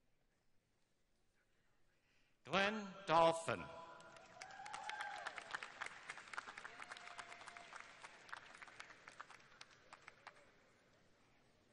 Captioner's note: names being read, cheers and applause throughout